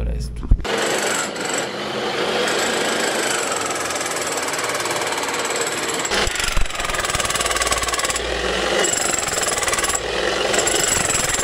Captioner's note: jackhammer pounding the earth